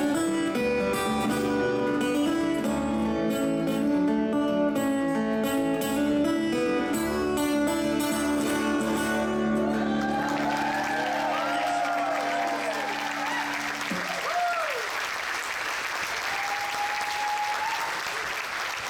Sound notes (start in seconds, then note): 9.7 audience applauds; 9.8 audience cheers